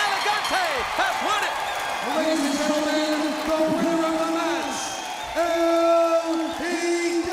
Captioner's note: crowd cheering; bell ringing